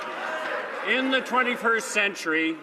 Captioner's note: some Applause